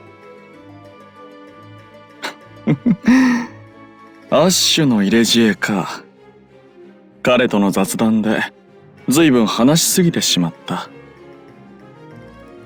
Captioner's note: laugh